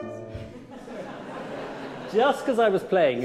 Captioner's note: audience laughing